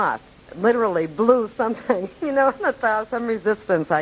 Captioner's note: laughing